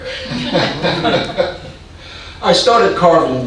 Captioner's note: audience laughing